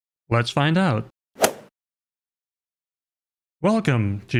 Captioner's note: golf ball hit sound effect